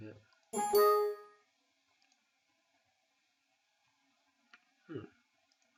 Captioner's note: electronic chirping sound